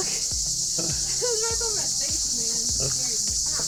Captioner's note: laughing